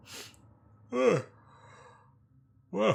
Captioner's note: yawn